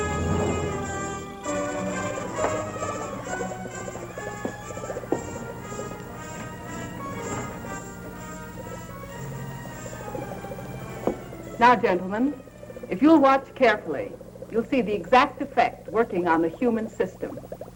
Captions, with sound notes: (bubbling) - Now gentlemen, if you'll watch carefully you'll see the exact effect working on the human system.